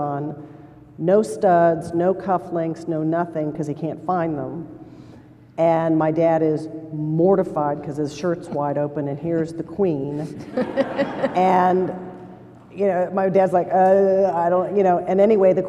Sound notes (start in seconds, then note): 10.3 laughter